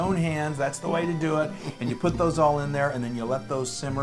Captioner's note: laugh